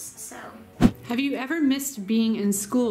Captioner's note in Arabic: سووش